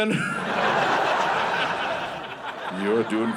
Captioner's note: audience laughing